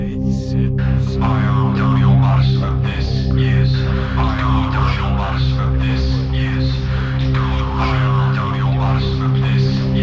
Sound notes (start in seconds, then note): 5.3 distorted voices echoing